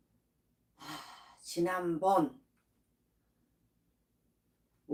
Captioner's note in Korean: 한숨